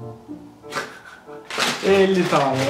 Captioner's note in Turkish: gülüyor